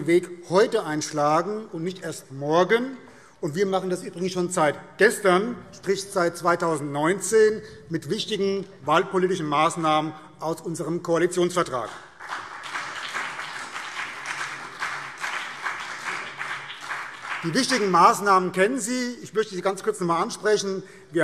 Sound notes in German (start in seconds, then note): 11.7 Beifall BÜNDNIS 90/DIE GRÜNEN und vereinzelt CDU